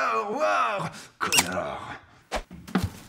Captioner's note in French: couinement